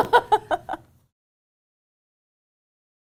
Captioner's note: laughs